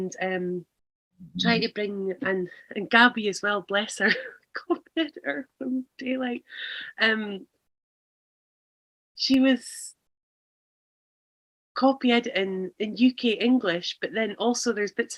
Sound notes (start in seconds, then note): 4.1 laughs